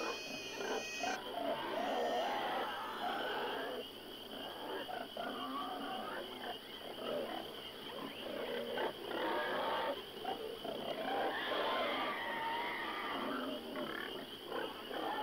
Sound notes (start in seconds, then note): 0.6 pigs snorting